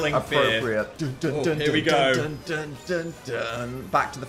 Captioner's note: Dan vocalizing